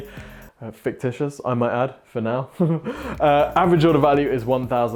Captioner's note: chuckles